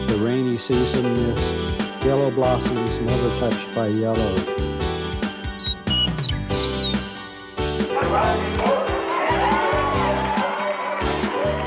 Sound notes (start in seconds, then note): 5.2 birds chirping; 7.9 crowd cheering; 11.4 rafters cheering